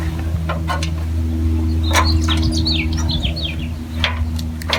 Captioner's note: metal clanks